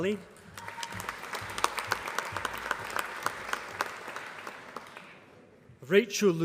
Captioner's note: applause